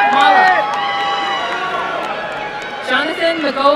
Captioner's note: applause and cheering